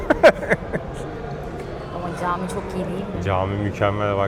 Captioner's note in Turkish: kahkaha